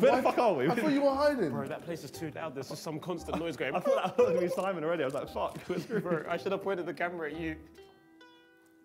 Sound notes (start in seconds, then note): 2.9 imitates beeping noise